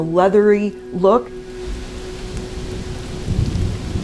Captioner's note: rain pattering